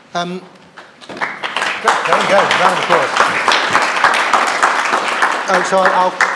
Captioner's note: applause